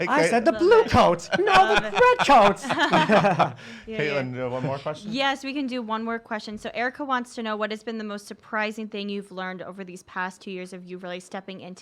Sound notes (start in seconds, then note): 2.6 laugh